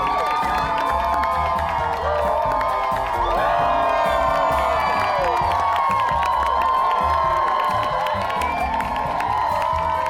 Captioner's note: crowd cheers, claps